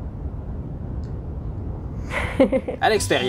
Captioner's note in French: rire